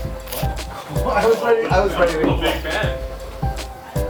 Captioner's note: people chat